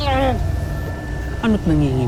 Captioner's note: grunts